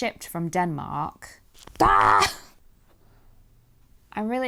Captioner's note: exasperated scream